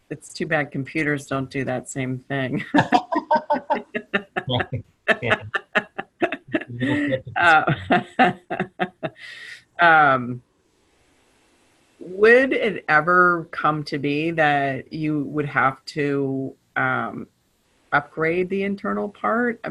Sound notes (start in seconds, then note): 5.2 laughter